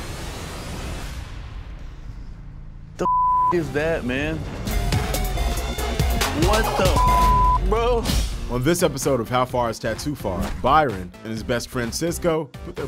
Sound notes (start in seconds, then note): 3.0 beep; 4.9 upbeat music; 6.8 beep